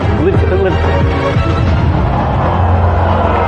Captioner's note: contestants gasp